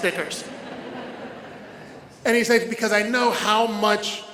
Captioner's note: audience laughs